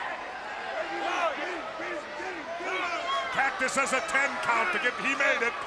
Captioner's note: crowd cheering